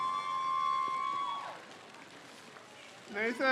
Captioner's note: crowd cheers